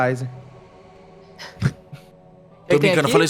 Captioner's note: chuckling